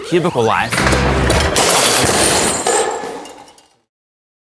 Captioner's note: cubicle crashing